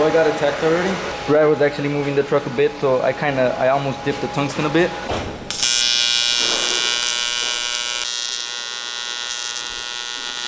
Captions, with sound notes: So I got a tack 30. Brad was actually moving the truck a bit, so I kinda I almost dipped the tungsten a bit. (welder buzzing)